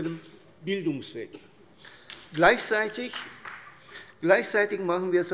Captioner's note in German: Beifall der Abg